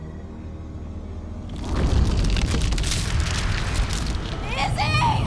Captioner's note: crackling; body rumbling